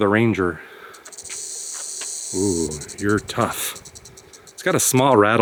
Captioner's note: snake rattles